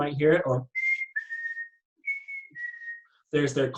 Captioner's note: whistles